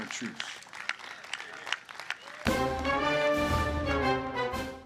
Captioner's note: applause